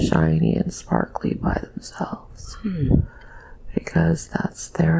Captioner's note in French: mmm